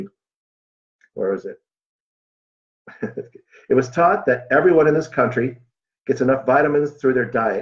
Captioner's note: chuckle